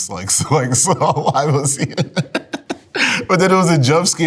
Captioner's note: laughs